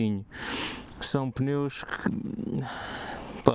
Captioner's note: sigh